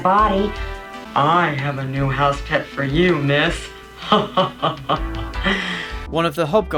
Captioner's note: manly voice; horny laugh